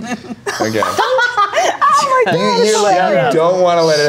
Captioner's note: Toni laughs